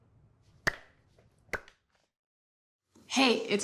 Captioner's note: clap